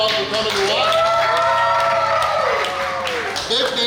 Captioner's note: cheering & Clapping